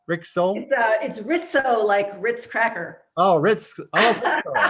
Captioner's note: laughs